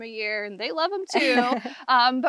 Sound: laughs

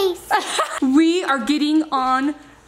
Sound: mom laughs

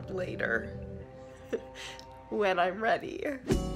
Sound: laughs

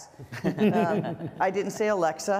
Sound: panel laughs

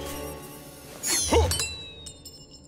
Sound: grunting

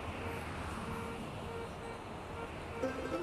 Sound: car horns honking

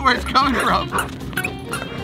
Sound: dog barking; shoes squeaking

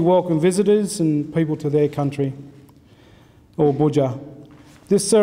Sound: speaks in foreign language

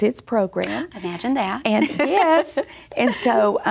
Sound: laughs

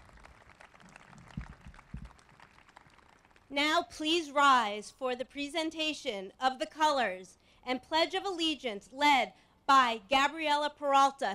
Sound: applause

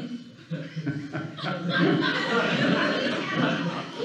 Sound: laughing

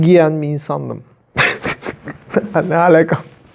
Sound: laughs

